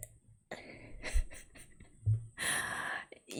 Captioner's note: laughs